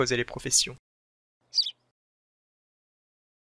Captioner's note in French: chant d’oiseau